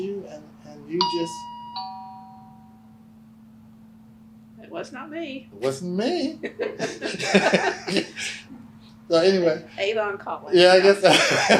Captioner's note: bell rings